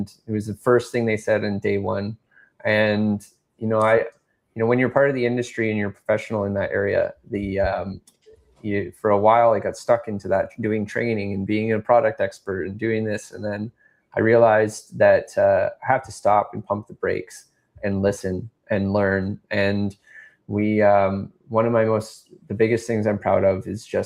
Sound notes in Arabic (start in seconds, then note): none